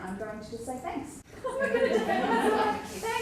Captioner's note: laughter